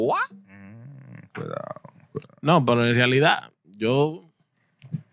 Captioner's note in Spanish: Hablando en idioma extranjero